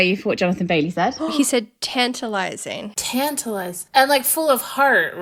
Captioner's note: gasp